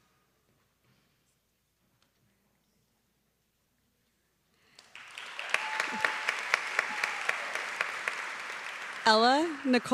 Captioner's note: applause